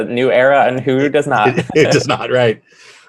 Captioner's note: both laughing